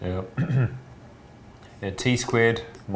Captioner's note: clears throat